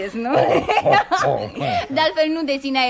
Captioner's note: both laugh